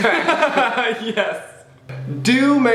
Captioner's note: laughs